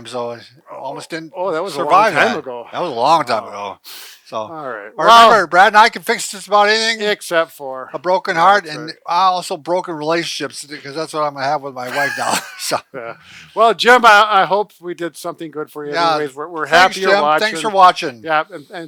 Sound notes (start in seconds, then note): 11.8 both laughing